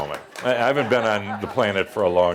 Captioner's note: some applause